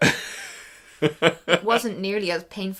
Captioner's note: laughs